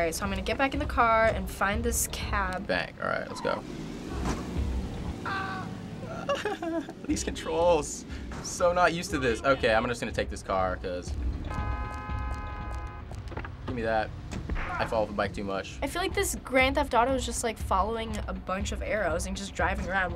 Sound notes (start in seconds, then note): 5.3 man screams; 6.0 giggles; 11.3 car honking